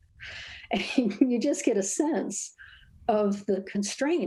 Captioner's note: laughs